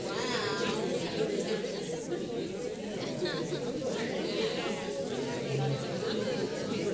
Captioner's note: paper crinkling and audience chattering